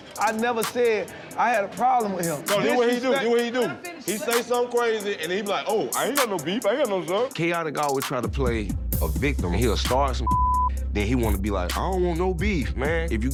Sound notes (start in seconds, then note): 10.2 beep